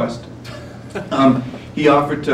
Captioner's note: laughter